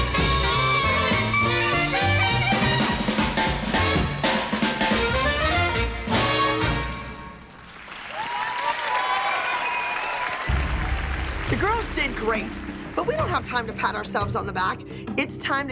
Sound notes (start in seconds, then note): 10.2 cheering